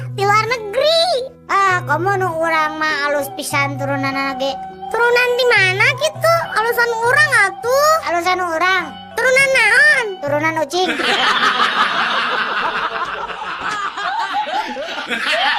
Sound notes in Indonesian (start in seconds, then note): 10.8 tertawa